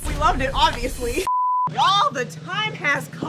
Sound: beeping sound

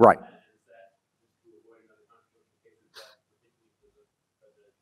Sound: man speaks faintly

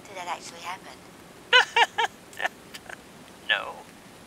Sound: hysterical laughter

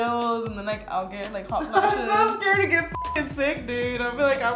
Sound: beep

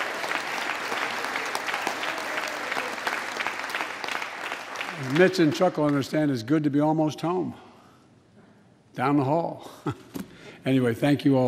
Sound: applause

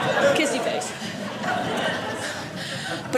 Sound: audience laughing

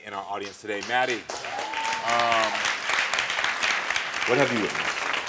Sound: audience applauding

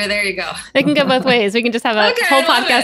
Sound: laughs

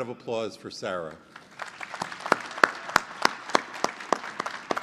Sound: applause

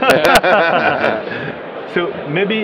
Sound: laughs

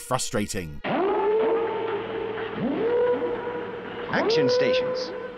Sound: alarm blaring

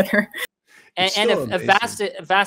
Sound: chuckles

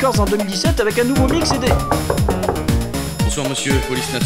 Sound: noises of someone knocking on the door

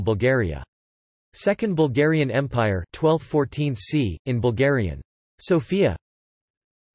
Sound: in Bulgarian

